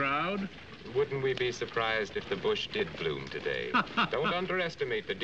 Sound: laughing

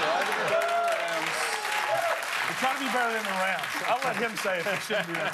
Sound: cheers and applause

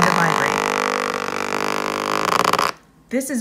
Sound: motor vibrates

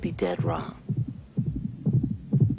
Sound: heartbeat racing

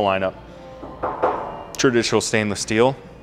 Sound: steel door clanking

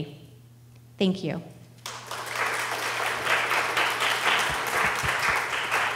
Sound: audience applauding

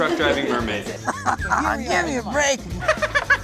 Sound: guest laughs; laughs

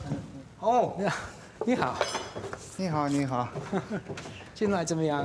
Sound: speaks in foreign language

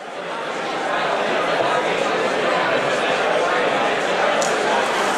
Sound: people chatter loudly

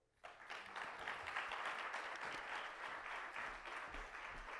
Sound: audience clapping

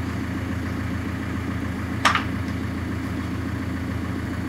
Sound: engine running

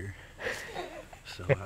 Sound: quietly laughing

